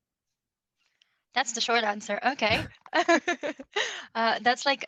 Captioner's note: chuckles